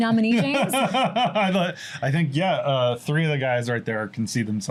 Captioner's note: laughs